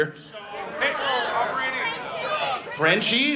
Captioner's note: audience shouting out dog breed names